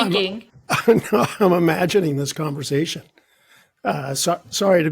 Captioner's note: chuckling